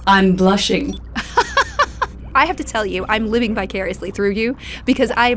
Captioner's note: laughs